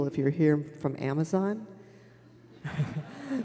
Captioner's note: laughter